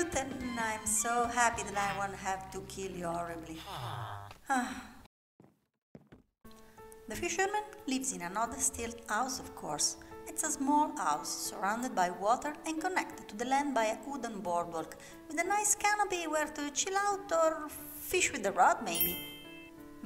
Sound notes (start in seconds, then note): 3.6 sigh